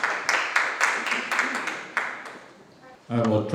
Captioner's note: audience applauds